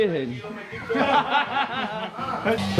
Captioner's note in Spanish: risas